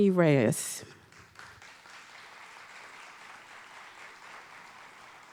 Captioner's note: audience applauding